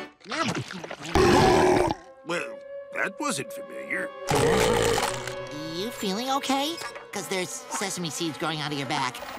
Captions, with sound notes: [burping] Well, that wasn't familiar. You feeling okay? Cause there's sesame seeds growing out of your back.